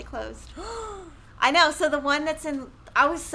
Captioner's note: gasps